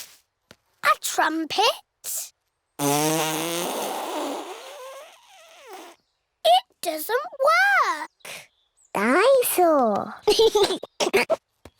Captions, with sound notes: A trumpet? (BLOWS RASPBERRY) It doesn't work! Dine-saur! (GIGGLES)